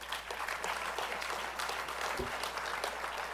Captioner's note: applause